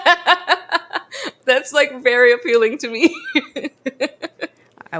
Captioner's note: laughs